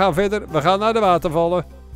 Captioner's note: voiceover